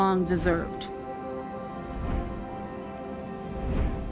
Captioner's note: air whooshing; upbeat music